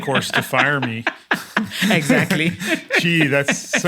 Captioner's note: laugh